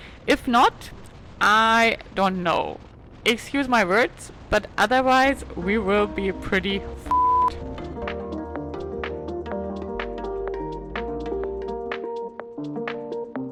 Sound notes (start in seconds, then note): 7.1 beep; 8.6 lively music